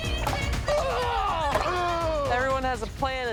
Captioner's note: both grunt